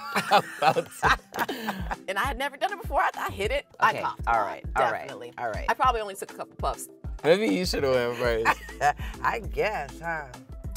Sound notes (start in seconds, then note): 0.0 both laughing; 8.1 laughing